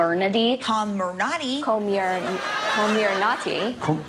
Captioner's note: laughter